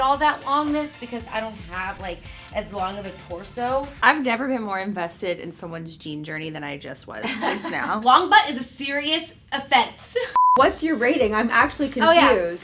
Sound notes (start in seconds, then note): 7.2 laughter